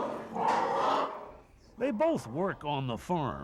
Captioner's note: pigs grunting